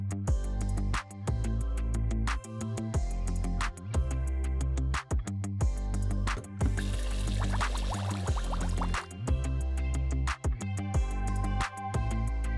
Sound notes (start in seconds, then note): 6.7 water burbling; 9.3 soft music continues